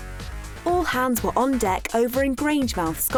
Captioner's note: voiceover